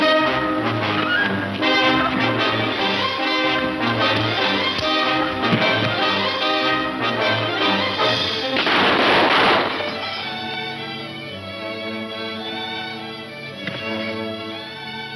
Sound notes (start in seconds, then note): 2.6 dull thudding; 8.1 gunshots; 8.7 slow instrumental music; 11.5 thud